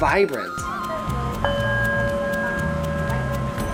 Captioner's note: chimes